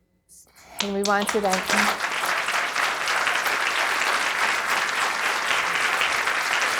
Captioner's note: audience applauding